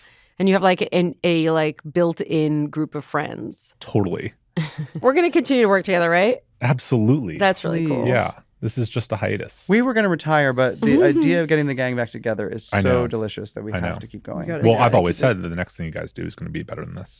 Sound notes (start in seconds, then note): 4.6 chuckles